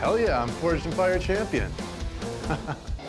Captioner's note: chuckles